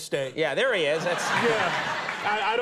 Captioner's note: audience laughing